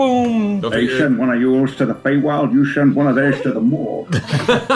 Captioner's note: Malone voice; all laugh